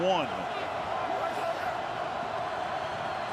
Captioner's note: crowd cheering